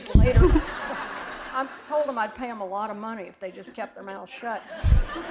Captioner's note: laughter; laughter